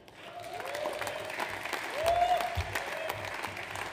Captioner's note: audience applauds